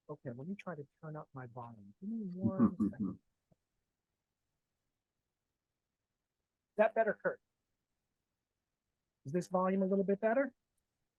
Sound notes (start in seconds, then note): 2.4 chuckling